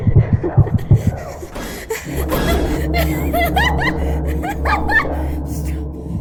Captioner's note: background voices; laugh